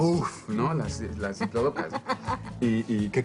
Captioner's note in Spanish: Ríe